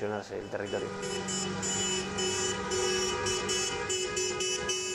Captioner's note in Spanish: Coches tocando el claxon